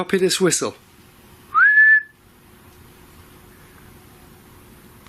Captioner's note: whistles